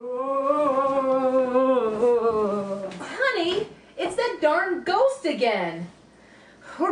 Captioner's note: scary Ghost Sounds